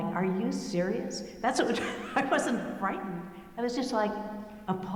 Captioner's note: laughing